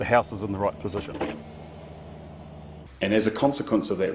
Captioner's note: machinery engine whirring